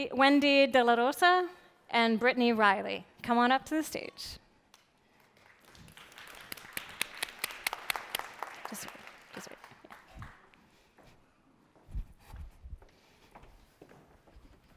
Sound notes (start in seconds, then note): 3.3 applause